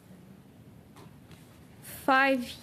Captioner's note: speaking French